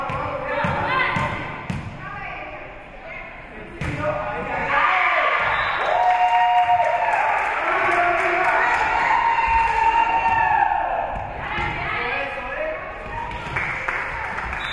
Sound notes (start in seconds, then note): 0.1 spectators shouting encouragements; 5.1 spectators cheering; 5.4 whistle being blown; 5.8 spectators cheering and applauding; 11.5 spectators shouting encouragements